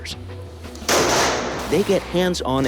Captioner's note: gunshot